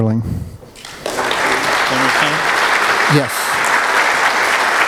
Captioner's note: applause